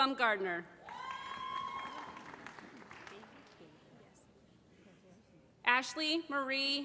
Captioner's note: applause